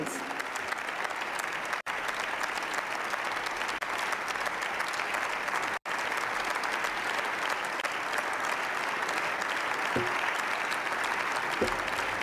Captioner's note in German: Beifall